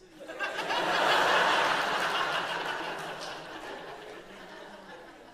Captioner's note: audience laughs